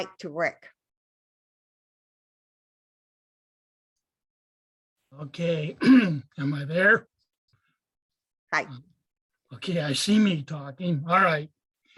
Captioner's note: clearing throat